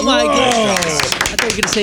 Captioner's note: clapping